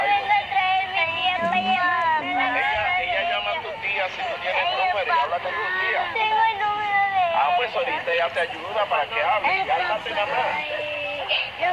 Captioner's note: speaking foreign language